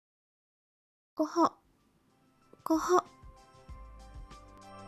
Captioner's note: cough